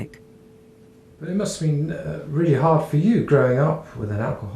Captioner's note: voiceover